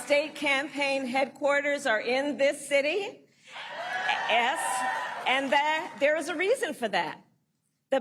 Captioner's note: applause